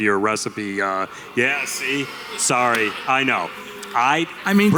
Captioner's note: boos from the audience